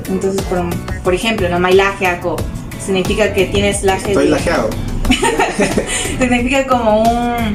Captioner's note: laughs